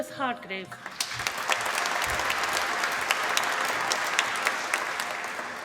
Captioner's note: applause